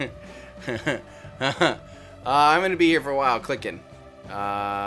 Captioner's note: laughing